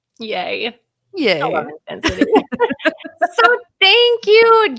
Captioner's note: both laughing